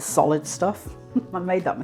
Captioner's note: laughs